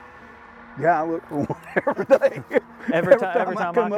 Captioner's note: laughs